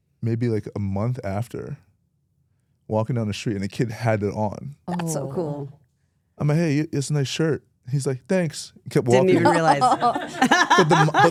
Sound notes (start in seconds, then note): 5.0 oohing; 9.1 laughing